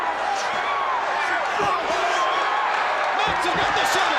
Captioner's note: crowd cheering